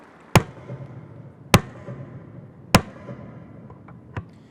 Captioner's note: university mace thudding